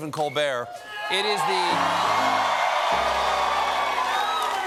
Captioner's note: cheers and applause; piano riff